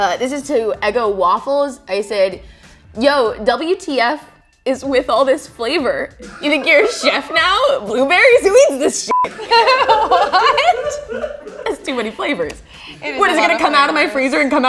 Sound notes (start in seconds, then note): 9.1 beep; 10.3 laughs